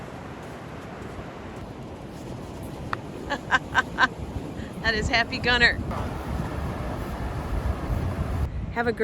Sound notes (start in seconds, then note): 3.2 laughing